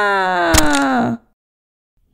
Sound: crack!

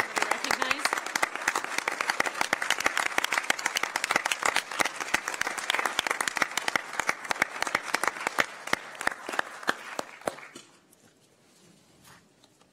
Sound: applause

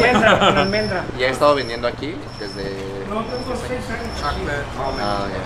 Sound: men speaking Spanish

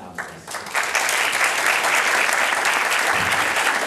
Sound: applause

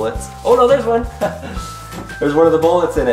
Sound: laughs

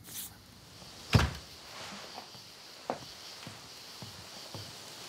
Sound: crickets chirping

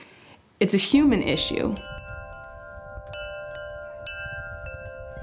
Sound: wind Chimes Tinkling

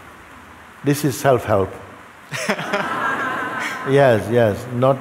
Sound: laughter

